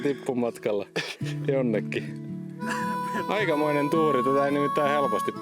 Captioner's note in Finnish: naurua